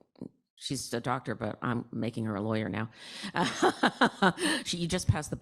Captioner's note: laughing